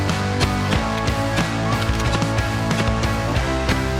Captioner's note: gun banging